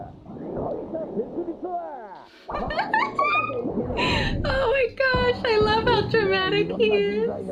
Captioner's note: laughs; laughs